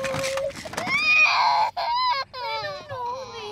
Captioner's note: crying